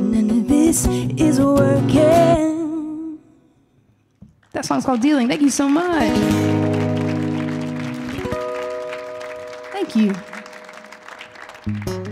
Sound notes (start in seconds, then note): 4.7 audience applauding; 6.0 guitar flourish